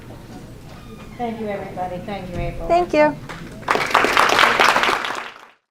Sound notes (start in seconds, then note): 3.6 applause